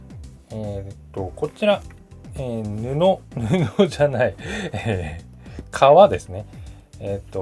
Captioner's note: laughs